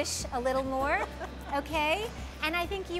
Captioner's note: laughter